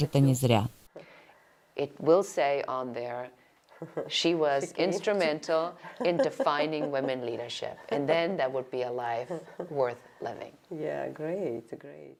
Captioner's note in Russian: Разговаривают на английском